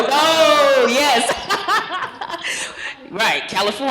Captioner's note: laughs